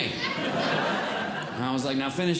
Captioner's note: audience Laughing